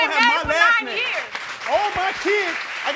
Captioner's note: crowd applauds